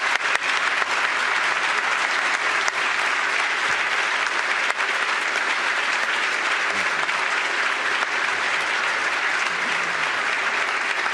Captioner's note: applause